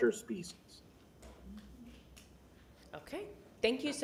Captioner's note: none